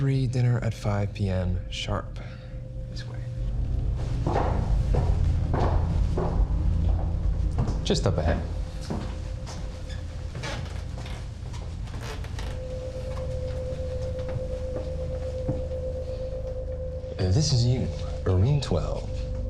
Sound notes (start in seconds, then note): 3.5 footsteps clicking; 10.2 floorboards creaking; 10.2 tense music